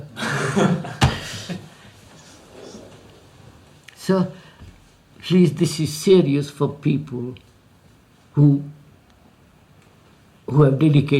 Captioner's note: laughs